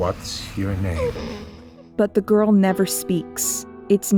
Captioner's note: the girl’s breathing is wheezy and labored